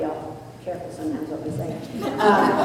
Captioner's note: laughter